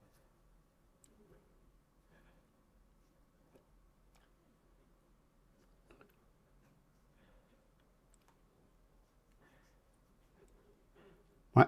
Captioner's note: silence